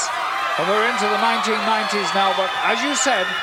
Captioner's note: audience cheering